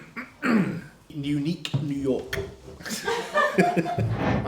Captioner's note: clears throat; laughs